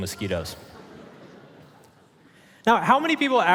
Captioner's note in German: Publikum lacht